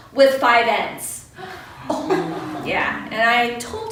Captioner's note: audience gasps